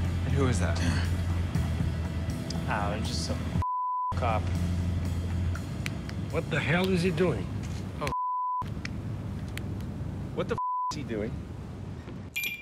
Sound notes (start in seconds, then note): 3.6 beep; 8.1 beep; 10.6 beep